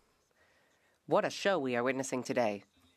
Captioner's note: speaking French